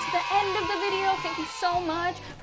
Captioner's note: cheering